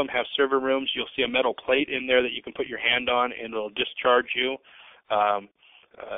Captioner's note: speaking rapidly